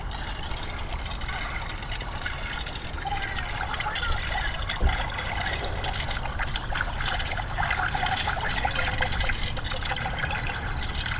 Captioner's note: chains rattling and underwater gurgles